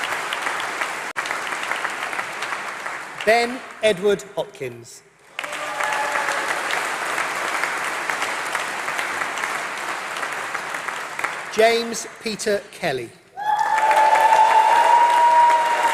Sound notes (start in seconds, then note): 5.2 applause; 13.4 applause